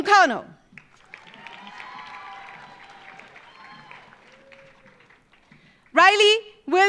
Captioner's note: audience cheering; audience applauding